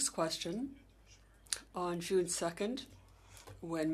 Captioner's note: speaking French